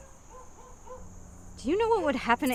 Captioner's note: distant dog barking